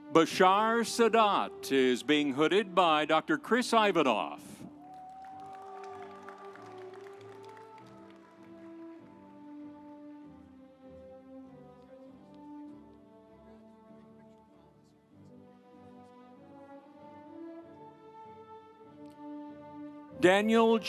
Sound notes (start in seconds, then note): 4.8 audience cheering; 5.4 instrumental music